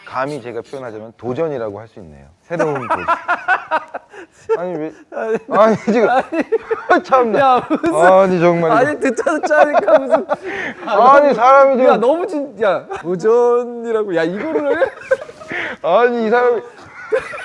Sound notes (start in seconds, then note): 2.5 laughs